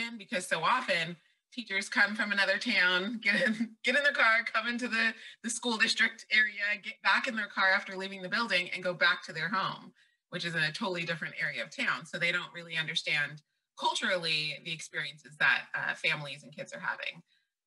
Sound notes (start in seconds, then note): 3.2 laughs